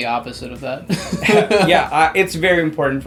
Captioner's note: laughs